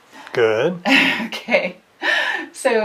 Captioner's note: laughs